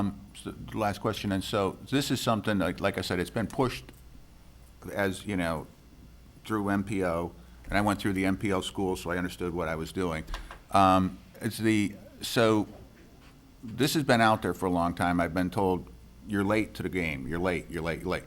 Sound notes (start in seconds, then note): none